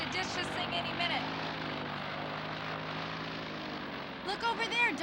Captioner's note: engine whirring